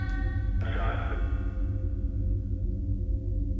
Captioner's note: chanting